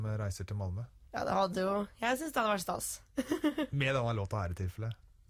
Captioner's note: laughing